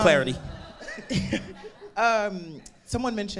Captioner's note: audience laughing